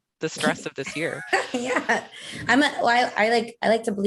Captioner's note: laughing